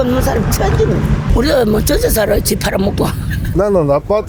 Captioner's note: laughs